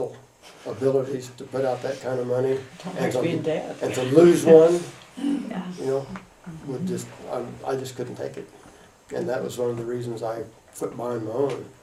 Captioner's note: laughs